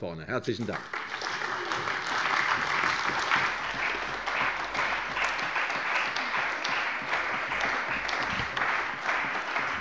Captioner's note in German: Beifall bei der CDU und dem BÜNDNIS 90/DIE GRÜNEN